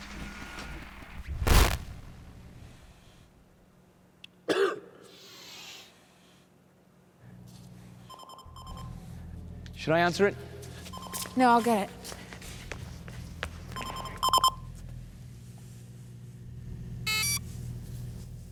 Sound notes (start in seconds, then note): 0.0 static; 4.4 coughs; 8.7 VPN rings; 13.9 ringing continues; 17.0 VPN beeps